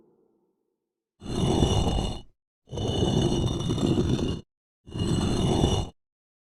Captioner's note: scraping rock sounds